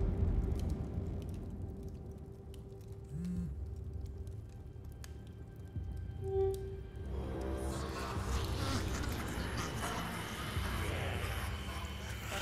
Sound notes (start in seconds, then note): 9.0 demonic Laugh